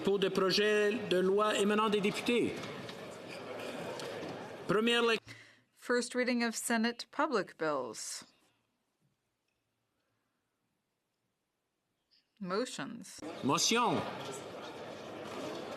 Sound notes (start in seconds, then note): 3.7 speaking French